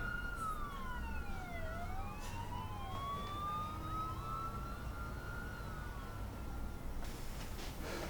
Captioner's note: police sirens